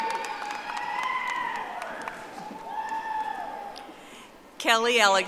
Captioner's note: audience applauding